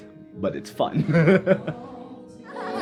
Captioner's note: laughs